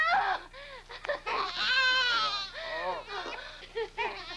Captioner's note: baby cries